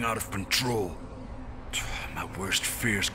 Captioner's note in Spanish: Suspiro